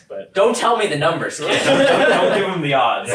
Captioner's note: all laugh